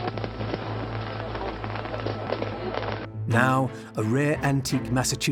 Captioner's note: fireworks crackling